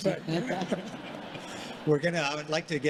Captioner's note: congregation laughing